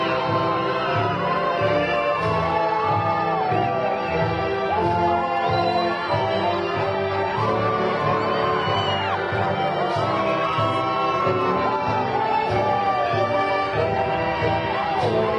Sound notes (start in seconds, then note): 1.8 graduation music continues; 7.0 crowd cheering